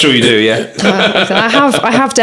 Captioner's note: laughter